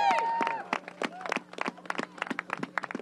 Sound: applause

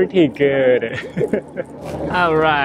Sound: chuckles

